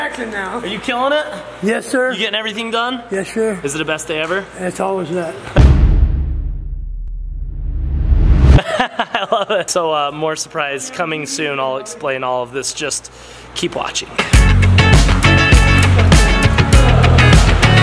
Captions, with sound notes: - Direction now. - Are you killing it? - Yes, sir. - You getting everything done? - Yes, sir. - Is it the best day ever? - It's always that. (deep drumming) (laughing) - I love it. So more surprise coming soon. I'll explain all of this, just keep watching. (exciting fun music)